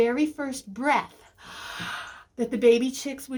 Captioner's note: inhales